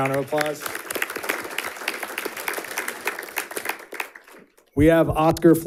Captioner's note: audience applauding